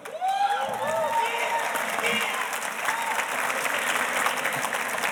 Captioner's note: audience cheers and applauds